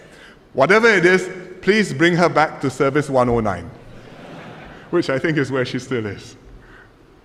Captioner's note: laughter